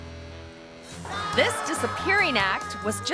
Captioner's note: actor screaming